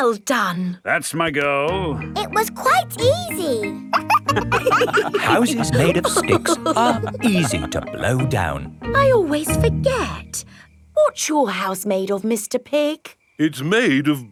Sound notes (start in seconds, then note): 3.8 wolves laughing